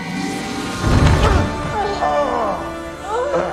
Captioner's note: both groaning